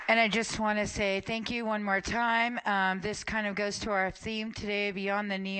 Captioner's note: applause